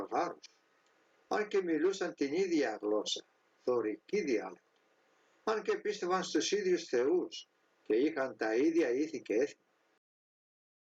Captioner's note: doric dialect